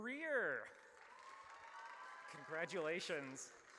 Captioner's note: audience cheers